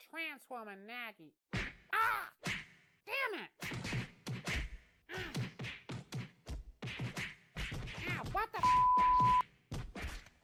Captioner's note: groans